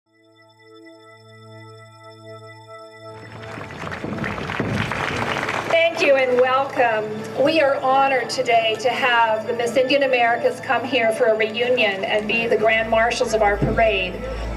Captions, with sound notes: (bright gentle music) (audience applauding) Thank you and welcome. We are honored today to have the Miss Indian Americas come here for a reunion and be the grand marshals of our parade.